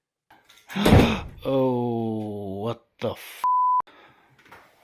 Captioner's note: gasp